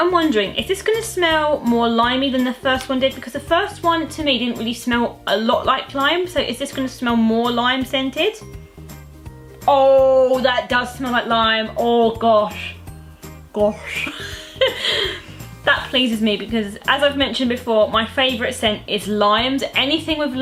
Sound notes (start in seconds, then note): 13.8 laughs